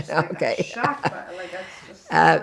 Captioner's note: laughing